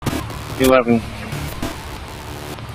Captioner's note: radio traffic